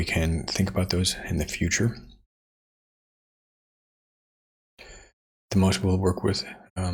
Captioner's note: silence